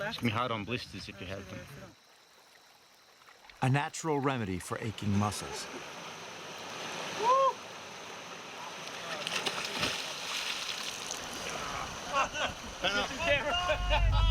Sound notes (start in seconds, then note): 9.1 water splashing; 11.4 laughs